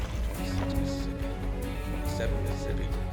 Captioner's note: counting